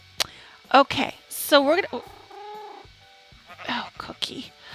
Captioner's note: cat meow interrupts